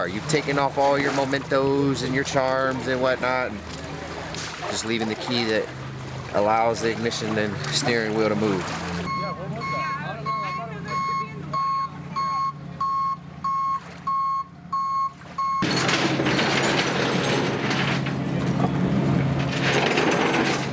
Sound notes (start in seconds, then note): 9.7 truck beeping; 15.6 chains clinking